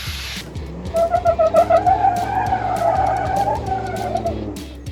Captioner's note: rubber squeaking